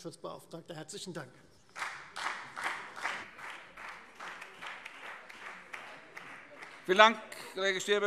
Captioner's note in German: Beifall Freie Demokraten und BÜNDNIS 90/DIE GRÜNEN